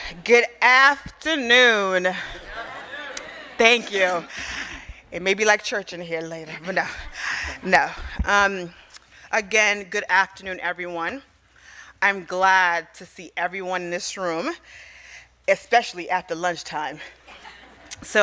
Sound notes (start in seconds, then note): 2.2 crowd